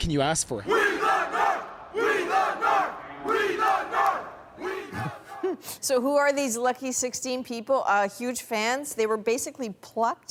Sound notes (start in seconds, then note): 2.7 chanting